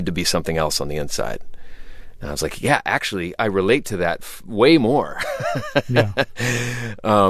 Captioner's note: laughter